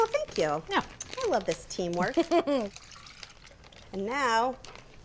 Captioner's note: laughs